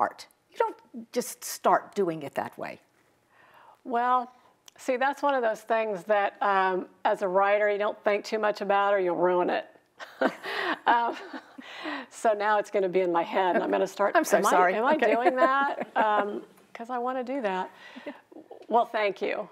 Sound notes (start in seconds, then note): 10.0 both chuckling; 14.9 chuckling